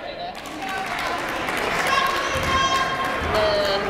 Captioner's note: yelling